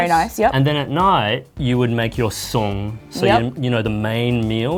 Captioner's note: speaks Cantonese